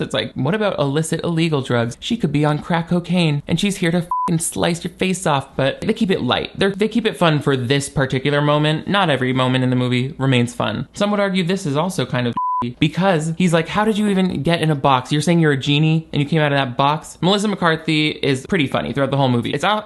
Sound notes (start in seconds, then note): 4.0 beep; 12.3 beep